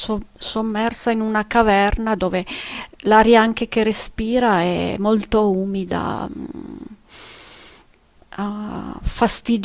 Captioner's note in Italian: sbuffare